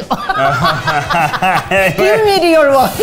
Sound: laughs

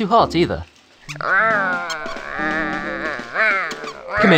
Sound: growling

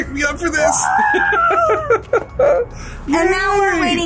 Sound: laughs

